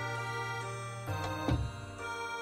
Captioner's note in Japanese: 扉の閉まる音：バタン